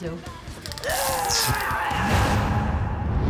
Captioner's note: grunts